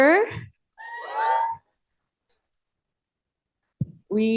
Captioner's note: cheering